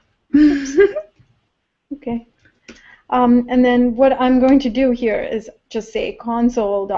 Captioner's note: laugh